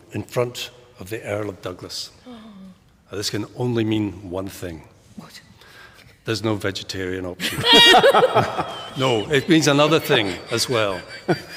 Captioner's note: laughter